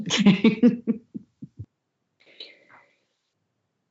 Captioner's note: laughter